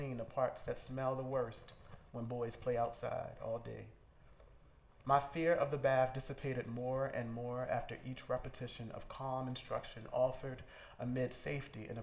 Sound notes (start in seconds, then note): none